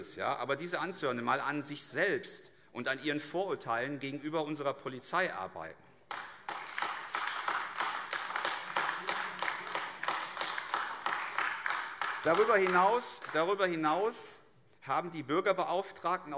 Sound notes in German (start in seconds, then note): 6.0 Beifall AfD